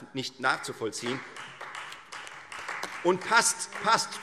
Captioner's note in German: Beifall Freie Demokraten